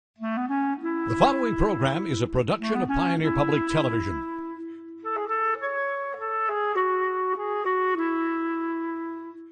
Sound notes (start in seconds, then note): 1.5 voiceover; 6.9 serene music